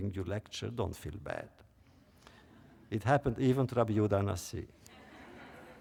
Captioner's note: laughter